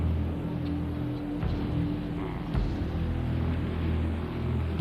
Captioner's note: engine roaring